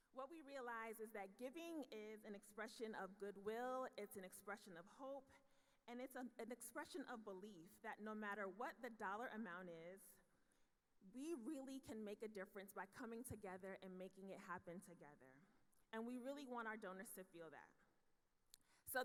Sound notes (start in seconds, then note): none